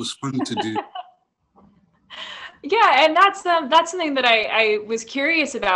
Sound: laughs

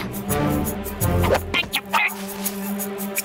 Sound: grunting

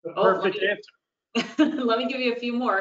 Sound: laughs

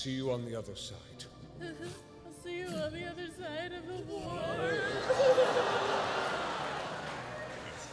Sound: fake-crying

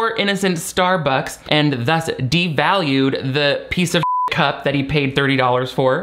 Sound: beep

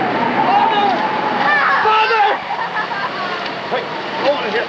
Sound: Lydia bawling

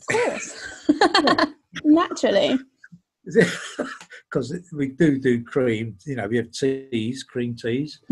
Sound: laughs; laughs

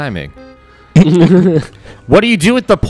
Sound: laughter

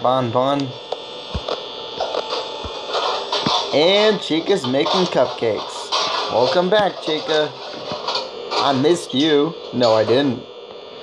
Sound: pan crash

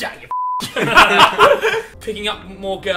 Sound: group laughs

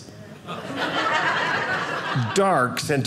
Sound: audience laughing

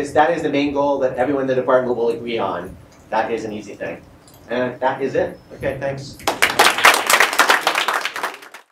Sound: applause

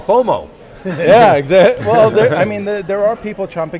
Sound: laughs

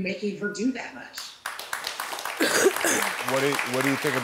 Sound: audience applauding

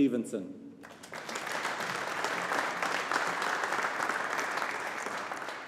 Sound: audience applauding

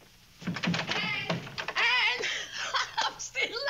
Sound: laughs

